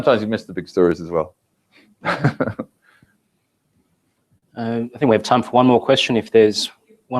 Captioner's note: laugh